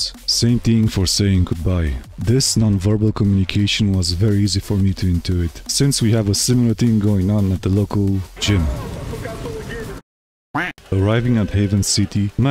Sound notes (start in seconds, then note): 8.7 angry person screaming in the mic; 10.5 quack